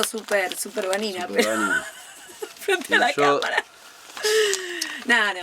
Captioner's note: laughs